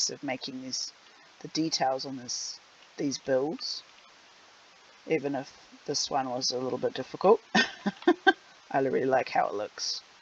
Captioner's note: laughs